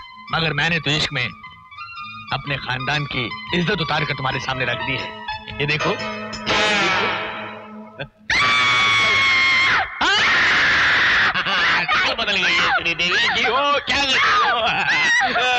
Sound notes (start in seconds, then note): 8.3 screaming; 10.0 both Screaming